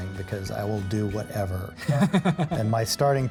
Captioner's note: chuckles